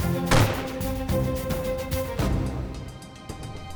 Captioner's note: gunshots; tense music